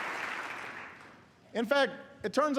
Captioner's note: applause